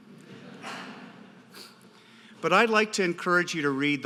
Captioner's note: audience laughter